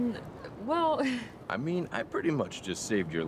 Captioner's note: laughs